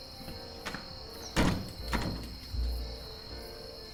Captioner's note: dramatic music; insects chirping; dramatic music